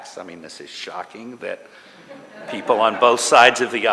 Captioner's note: laughter